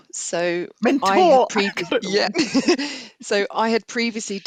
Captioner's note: laughs